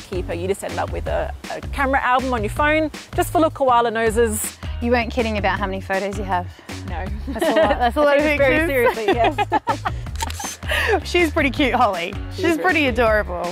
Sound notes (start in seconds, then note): 8.8 both laugh